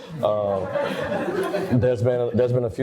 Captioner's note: audience laughter